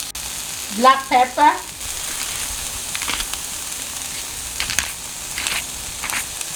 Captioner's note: pepper grinding